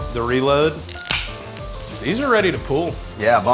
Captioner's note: beer can tab pops